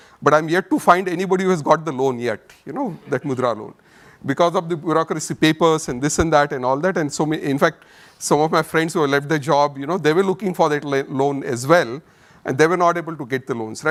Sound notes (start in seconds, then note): 2.9 audience chuckles